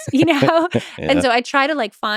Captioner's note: chuckles